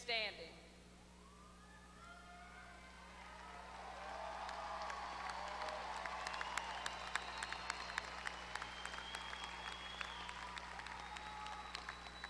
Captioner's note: applause